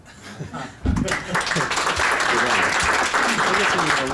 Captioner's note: clapping